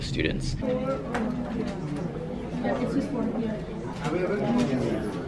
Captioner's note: general classroom chatter